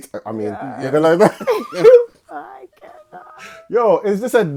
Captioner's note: laughing